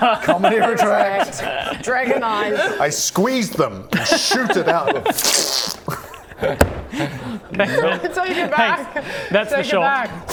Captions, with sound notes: Comedy retract. Dragon eyes. I squeeze them. Shoot it out. *fffppbbbbbttt* Thanks, Ben. - Take it back. - Thanks. - Take it back. - That's the shot.